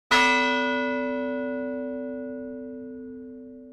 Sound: bell chimes

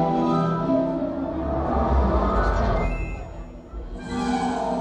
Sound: air whooshing; suspenseful music

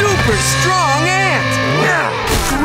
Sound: grunting

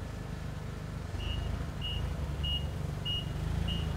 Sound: beeping

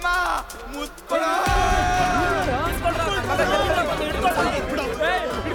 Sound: crowd screaming: Hold him tight, kiss him! Leave him!

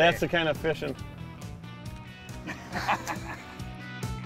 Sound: laughing

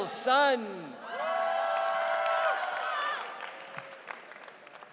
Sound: audience cheering

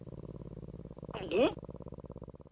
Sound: gulp

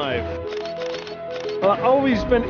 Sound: camera flashes

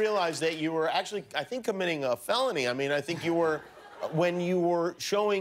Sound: laughter

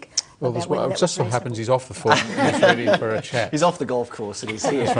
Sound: laughter

